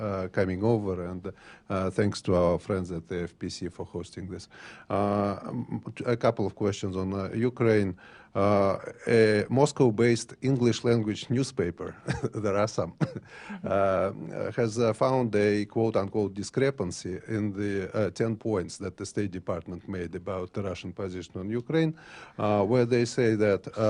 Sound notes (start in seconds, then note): 12.0 laughter